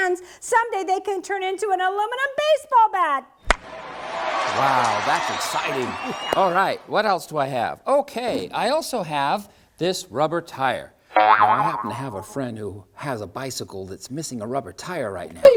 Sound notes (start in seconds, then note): 3.4 CRACK of bat!; 3.5 CHEERS from crowd!; 11.1 boing!